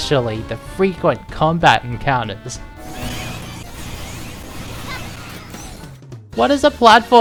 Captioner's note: game audio, repeatedly